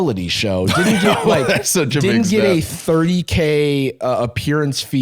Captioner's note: laughs